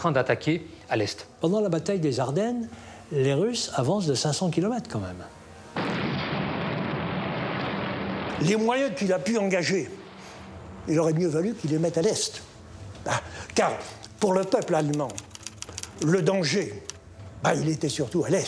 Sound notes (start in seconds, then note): 5.8 explosion booms